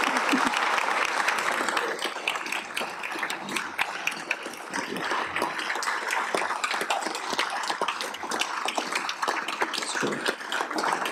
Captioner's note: cheers and applause